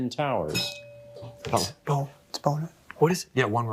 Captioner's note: bell rings